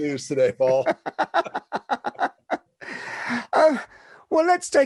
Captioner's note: both laughing